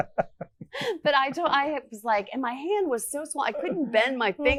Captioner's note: laughs